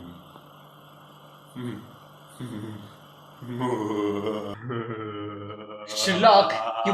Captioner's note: manic villainous laughter